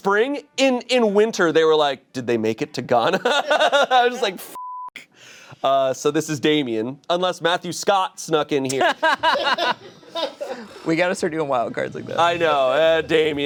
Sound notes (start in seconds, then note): 3.1 laughs; 4.5 beep; 8.7 laughs